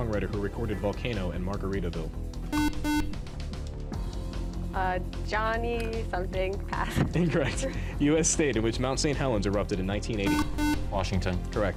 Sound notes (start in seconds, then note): 2.5 beep